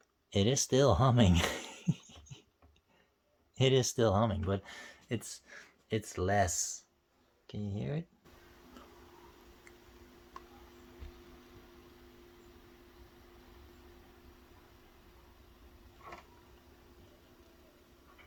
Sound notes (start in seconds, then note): 11.6 a light humming sound